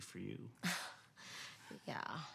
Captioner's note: Cassie laughs